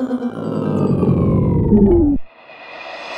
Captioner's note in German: Abfallender Ton